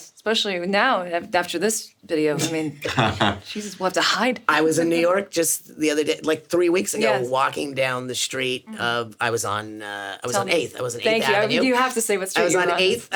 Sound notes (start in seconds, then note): 2.8 laughing; 5.2 Sarah laughs